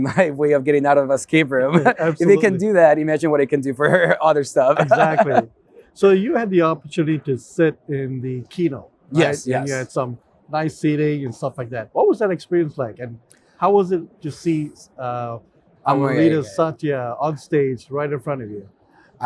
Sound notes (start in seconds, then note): 4.7 laughs